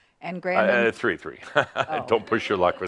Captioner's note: chuckles